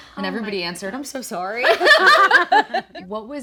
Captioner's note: group laughing